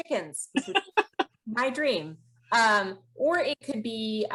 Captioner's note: laughs